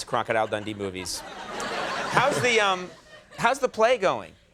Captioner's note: audience laughs